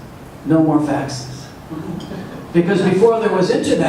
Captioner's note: audience laughs